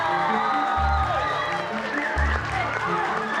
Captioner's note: cheers and applause; dramatic music plays